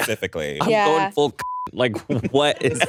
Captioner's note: beep